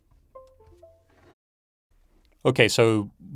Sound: Windows 10 notification ding

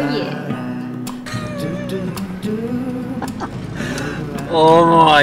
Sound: laughing

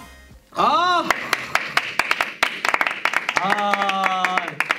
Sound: A round of applause

